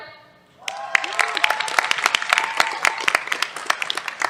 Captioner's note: cheers, applause